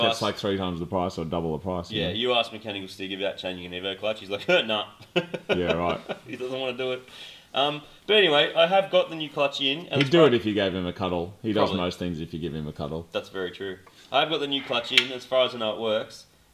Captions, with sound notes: -Like it's three times the price, or double the price. -Yeah. You ask Mechanical Stig, About changing an Evo clutch, he's like "Heh, nup!" (laughs) -Yeah, right. -He doesn't want to do it! -But anyway, I have got the new clutch in, -He'd do it if you gave him a cuddle. -Probably. -He does most things if you give him a cuddle. That's very true. I have got the new clutch in: as far as I know, it works.